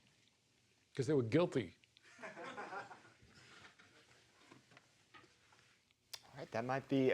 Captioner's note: audience laughing